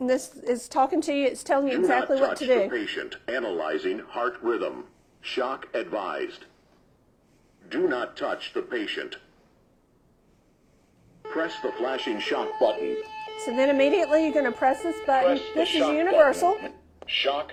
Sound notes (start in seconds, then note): 13.7 AED alarm blaring